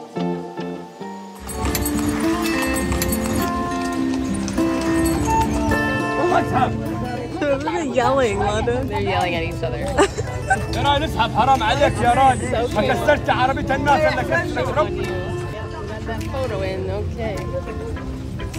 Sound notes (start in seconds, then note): 1.7 upbeat music; 6.3 men yelling; 11.2 men speaking in foreign language